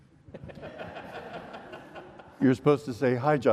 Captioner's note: audience laughs